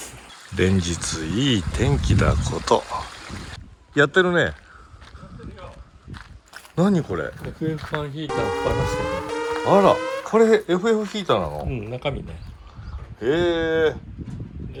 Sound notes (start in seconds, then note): 8.3 warning sound